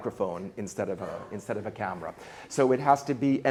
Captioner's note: light laughing